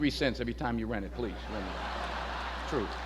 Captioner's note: audience laughs